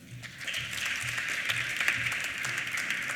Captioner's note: applause